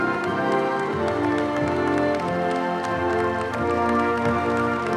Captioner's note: audience cheers; all applaud